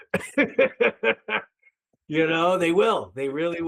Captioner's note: laughing